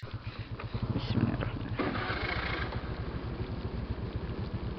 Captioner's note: starting the engine